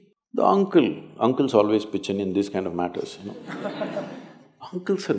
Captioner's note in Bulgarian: смях